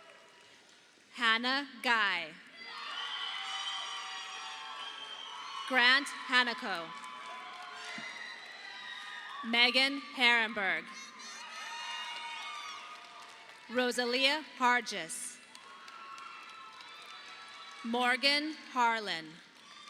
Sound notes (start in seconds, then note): 2.5 audience applauding; 10.9 audience applauding